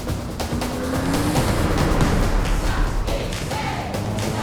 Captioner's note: car engine roaring